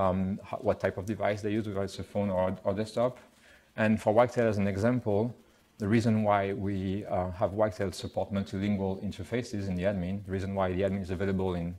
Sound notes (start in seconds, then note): none